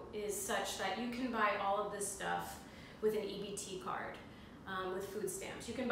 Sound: none

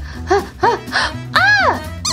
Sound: panting; gasps

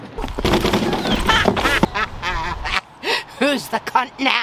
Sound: trash can rumbling; laughs

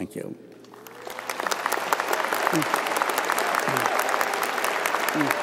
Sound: audience applauding

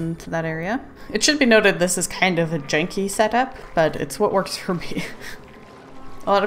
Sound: laughs

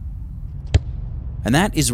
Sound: ball being kicked

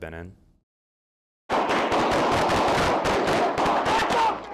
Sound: gunshots

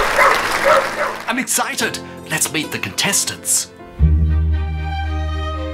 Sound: applause and dogs barking; classical music

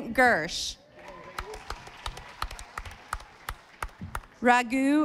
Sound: audience applauding

